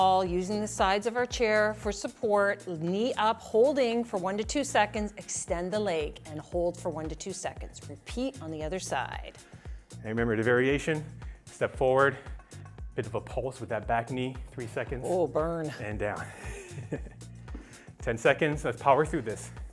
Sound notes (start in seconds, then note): 16.2 laughing